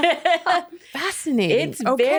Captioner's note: laughing